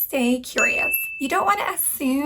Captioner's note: bell dings